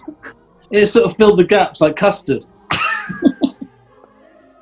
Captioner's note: giggling